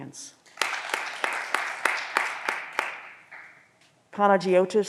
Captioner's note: audience applause